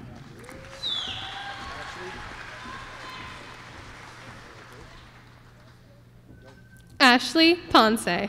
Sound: applause

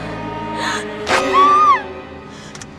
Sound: screams

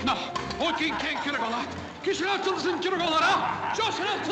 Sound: men laughing; protesting in spanish

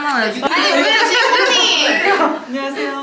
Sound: laughing

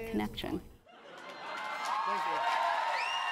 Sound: audience cheering

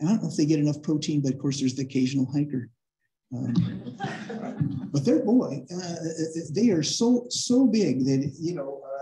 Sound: laughter

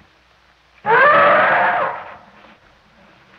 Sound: trumpeting elephant

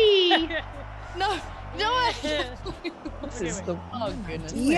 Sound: laugh

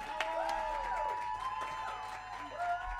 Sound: cheers and applause; saludos y aplausos

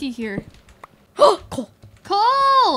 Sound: gasps

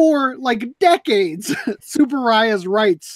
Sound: laughs

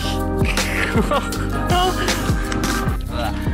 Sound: laughing

